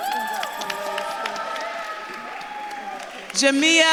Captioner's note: audience claps and cheers